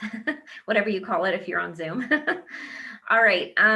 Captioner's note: laughs; laughs